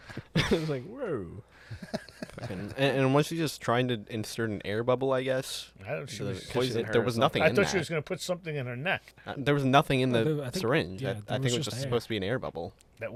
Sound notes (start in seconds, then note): 1.6 laughter